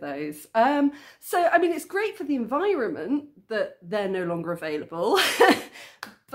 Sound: laughing

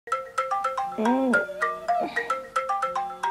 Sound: groaning

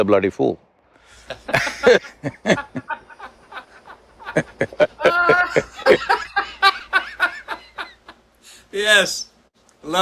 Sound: both laugh

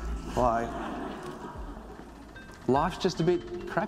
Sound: audience laughs

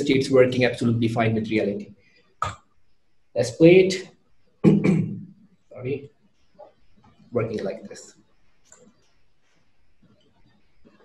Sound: cough

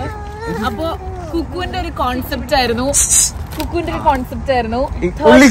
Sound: hissing

